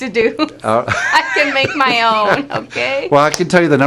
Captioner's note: laughs